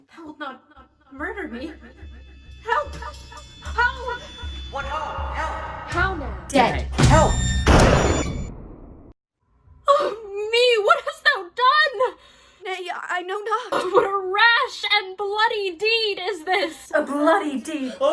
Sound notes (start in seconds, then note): 7.6 gunshot